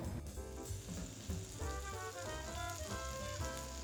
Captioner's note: sizzle